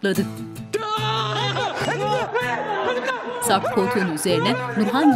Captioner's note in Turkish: Bağırma sesleri